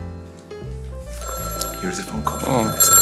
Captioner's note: phone ringing